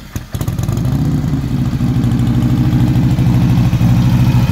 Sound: engine revving

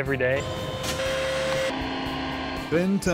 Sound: mechanical sounds

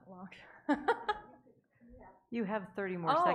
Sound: laughing

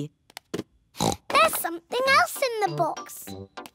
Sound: oinks

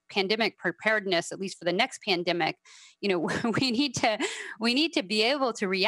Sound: laughing

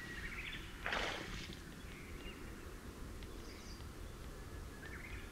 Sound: the sound of spawning can be heard

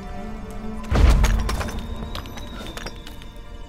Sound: thunderous boom, debris clatters

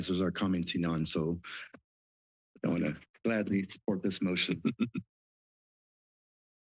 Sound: laughter

